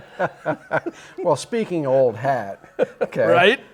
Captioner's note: laughs